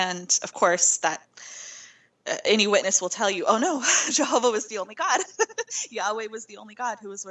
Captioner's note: laughing